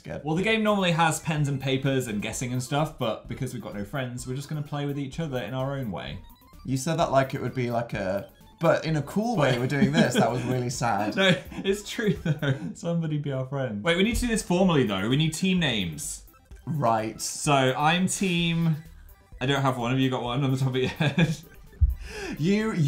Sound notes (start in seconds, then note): 9.4 laughs